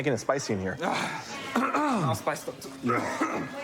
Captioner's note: clears throat; coughs